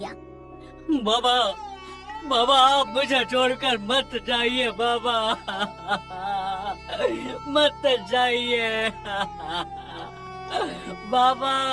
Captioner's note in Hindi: हंसी